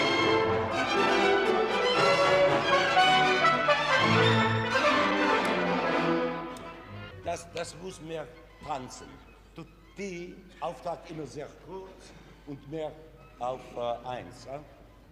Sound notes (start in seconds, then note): 6.8 orchestra stopping; 7.8 speaking foreign language